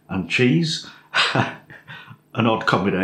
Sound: laff

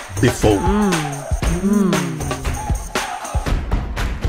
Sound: voices; bright music

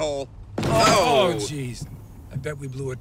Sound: car rattles

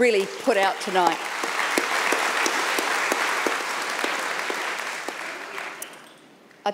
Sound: audience clapping

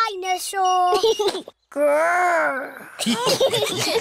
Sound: giggles; laughter

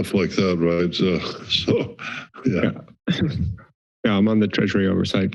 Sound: chuckles

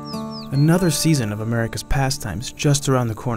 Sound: voiceover

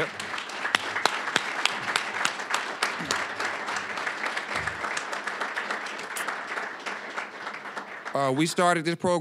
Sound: applause

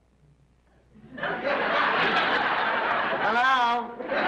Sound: audience laughs

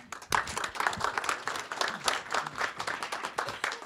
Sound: audience applauds

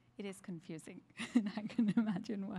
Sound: laughter

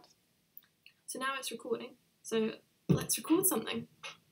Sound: recorded video file plays back

